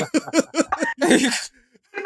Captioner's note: laughter